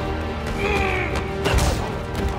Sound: grunts

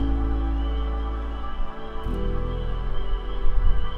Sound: insects chirping

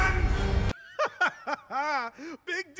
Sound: King Dice laughing

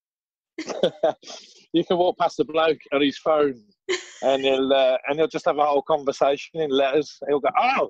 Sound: laughter

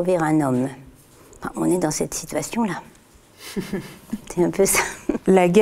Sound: laughs

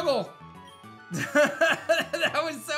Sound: laughs

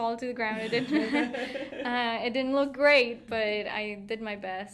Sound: laughing

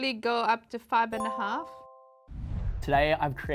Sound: chime

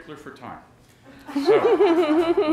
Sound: laughter

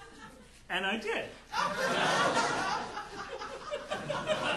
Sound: audience laughing

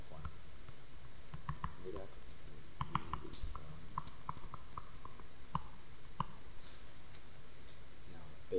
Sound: writing

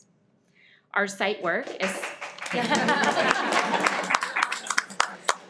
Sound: everyone applauds

